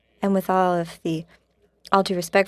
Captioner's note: speaking French